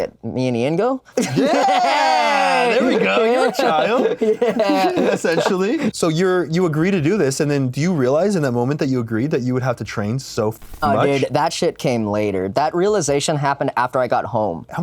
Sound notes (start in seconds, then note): 1.2 both whoop; 4.2 laughs